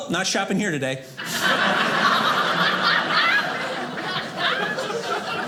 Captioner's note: audience laughing